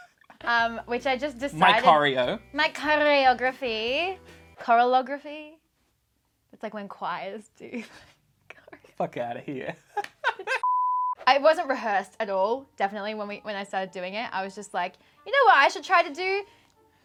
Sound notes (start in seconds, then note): 10.0 laughing; 10.0 laughs